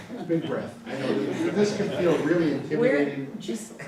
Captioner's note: laugh